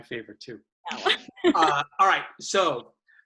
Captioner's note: laughs